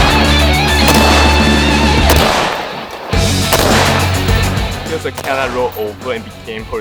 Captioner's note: rock music; gun bangs